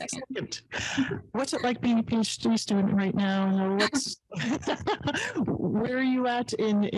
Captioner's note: laughs